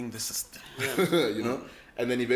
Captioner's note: laughs